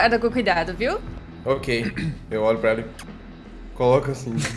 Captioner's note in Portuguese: beijo